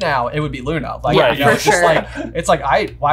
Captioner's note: laughing